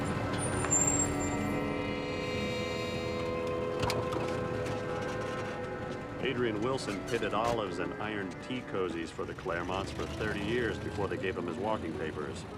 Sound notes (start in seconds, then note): 0.7 car brakes screeching; 3.5 car door opening